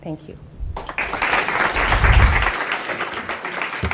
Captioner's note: applause